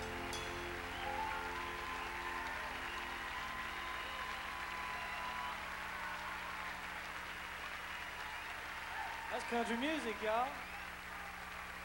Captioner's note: crowd cheering